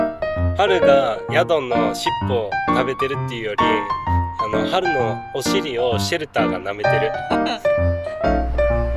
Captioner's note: laughs